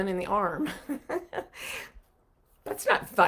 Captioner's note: chuckling